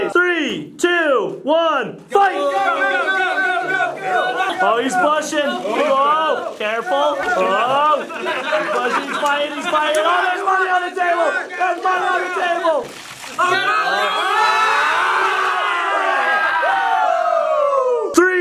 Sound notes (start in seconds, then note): 2.8 all yelling; 13.7 all yelling; 16.3 cheering